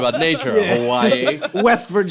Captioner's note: laughter